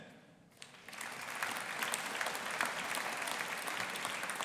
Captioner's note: audience applauding